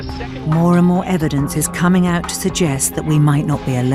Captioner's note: voiceover